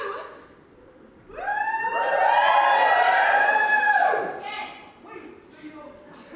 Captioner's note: audience cheers, someone shouts kiss